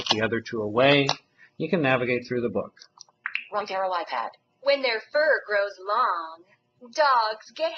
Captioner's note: iPad app speaking